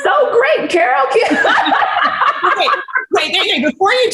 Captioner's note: laughs